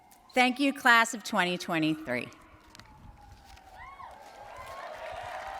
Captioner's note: audience cheers